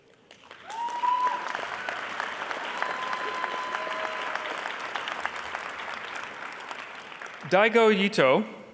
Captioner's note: applause